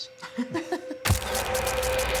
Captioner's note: laughs